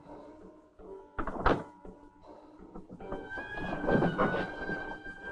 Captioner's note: door clicking